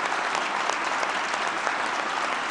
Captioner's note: applause